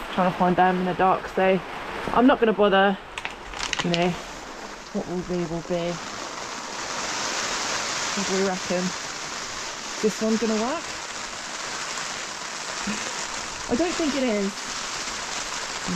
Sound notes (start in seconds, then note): 7.0 rain on tarp; 11.2 rain